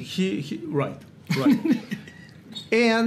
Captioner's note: Gary laughs